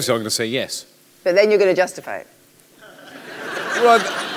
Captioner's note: laughter